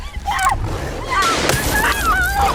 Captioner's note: gun firing; gun snaps